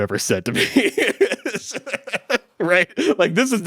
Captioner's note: both laughing